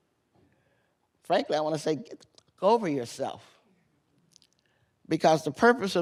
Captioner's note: muted